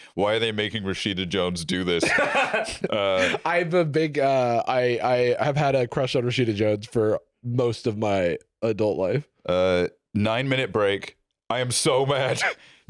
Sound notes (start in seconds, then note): 2.0 laughs